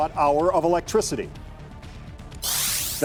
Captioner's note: digital sound effect